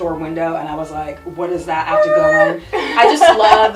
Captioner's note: laughs